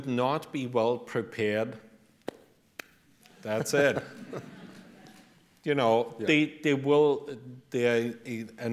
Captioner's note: hands clap